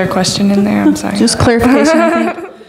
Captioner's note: laughing